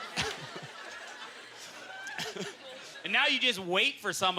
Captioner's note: audience laughter; laughs